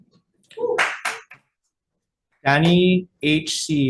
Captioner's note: constituent claps